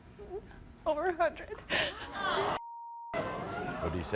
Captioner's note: audience gasping